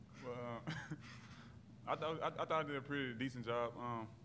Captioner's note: laughter